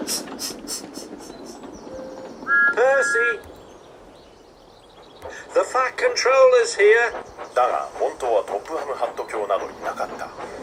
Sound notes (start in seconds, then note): 3.2 tooting